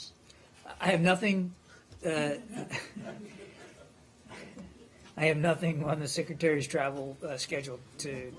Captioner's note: laughter